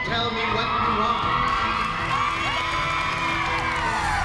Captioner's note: applause